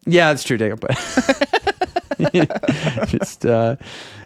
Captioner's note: laughing